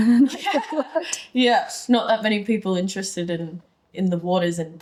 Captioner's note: laughing